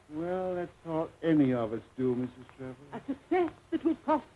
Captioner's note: laughter